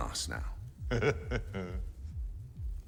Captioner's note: chuckles